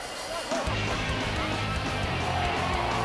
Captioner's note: crowd cheering